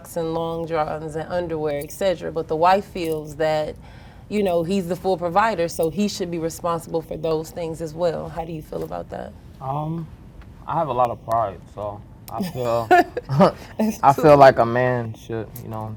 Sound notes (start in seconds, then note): 12.3 chuckles